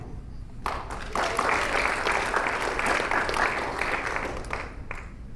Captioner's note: audience applauding